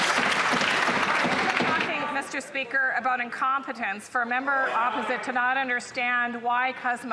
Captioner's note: some Applause